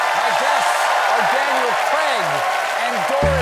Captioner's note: cheers and applause